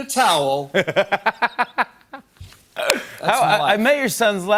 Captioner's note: laughs